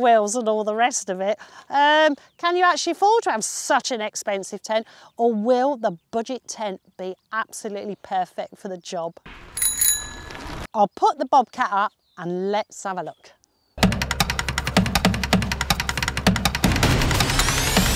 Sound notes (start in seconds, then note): 9.5 bell Ring; 13.8 drum Beat